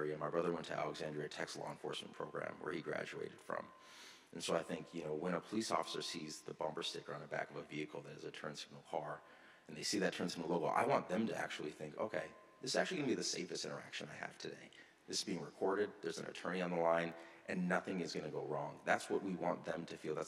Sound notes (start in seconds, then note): none